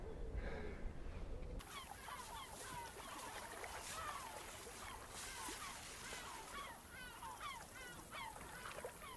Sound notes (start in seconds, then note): 1.6 water lapping; 1.6 gulls goosing